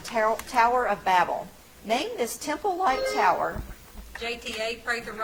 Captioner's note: bell ringing